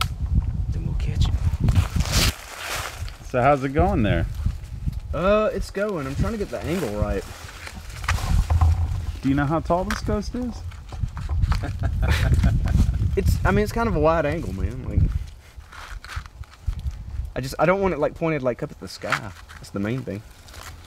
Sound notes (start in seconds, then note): 11.4 Jeff laughing